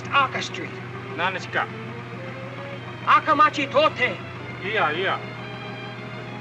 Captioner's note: speaking in Japanese; soft suspenseful music